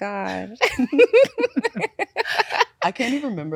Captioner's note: both laughing